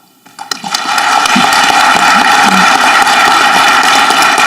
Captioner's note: audience clapping